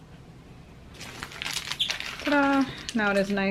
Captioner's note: package crinkling